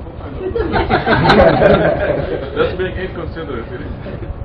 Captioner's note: Gülüyorlar